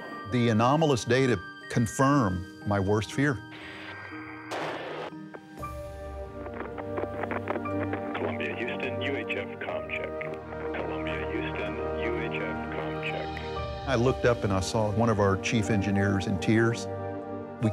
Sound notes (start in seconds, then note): 3.7 radio static